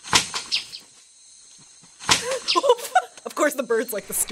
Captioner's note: whack; eagle chirps; laughs